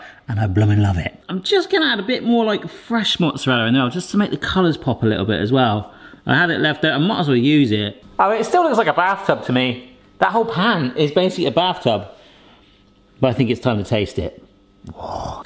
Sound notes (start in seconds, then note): none